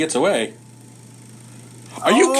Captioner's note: lights whirring